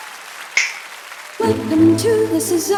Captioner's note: audience applause; finger snap; singing